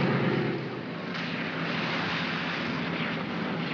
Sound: aircraft rumbles; water splashes; vehicles rumble

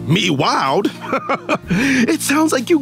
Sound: laughing

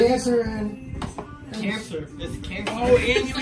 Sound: laughing

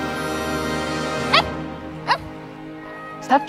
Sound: Chukchuk barks

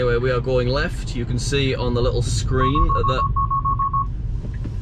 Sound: interrupted by tesla beeps

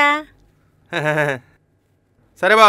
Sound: giggles

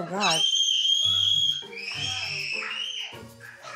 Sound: screaming

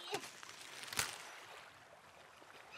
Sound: stem cracks; ocean ripples

